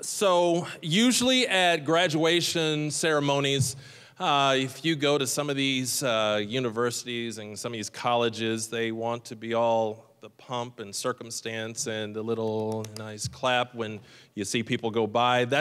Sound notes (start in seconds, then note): 12.6 light clapping